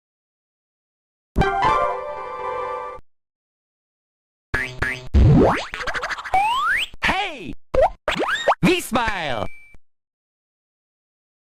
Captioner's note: German